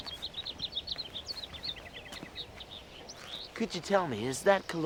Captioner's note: birds chirping